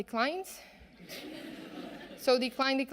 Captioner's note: audience laughing